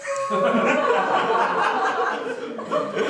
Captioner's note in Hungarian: nevetés